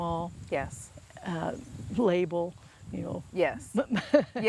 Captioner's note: laughs